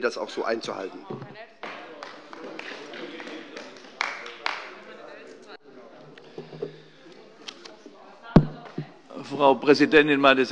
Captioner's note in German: Beifall bei Abgeordneten der SPD und der LINKEN